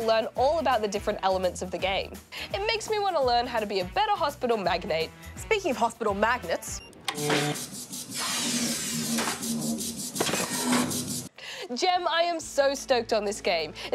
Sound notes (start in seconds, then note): 7.0 machine whirrs